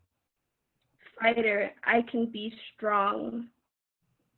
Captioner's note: reading from chat